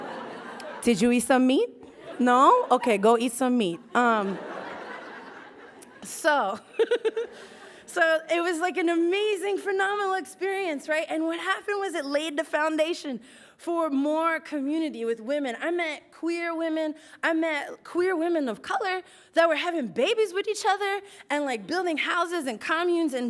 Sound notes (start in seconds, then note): 4.2 laughs